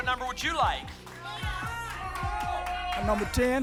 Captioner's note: audience shouting numbers